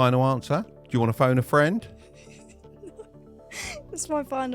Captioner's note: laughing